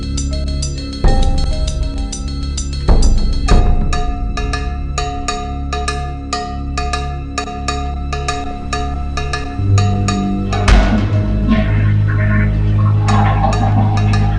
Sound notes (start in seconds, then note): 10.7 toilet flushing